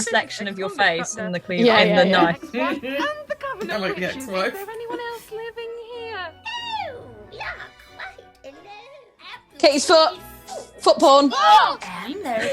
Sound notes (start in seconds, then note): 3.6 laughing; 5.6 Sketch audio plays